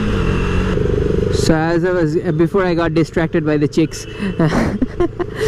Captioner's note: laughter